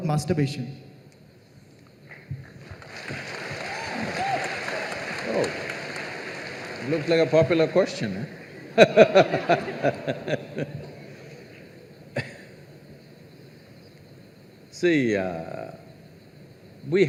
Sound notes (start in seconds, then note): 2.4 applause; 8.3 laughs